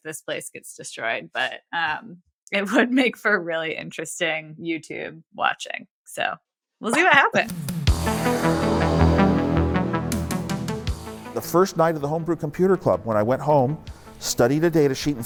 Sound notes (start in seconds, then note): 6.4 <Laugh>; 9.3 retro synthesizer music plays